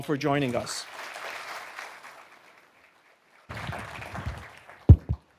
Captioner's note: audience applauding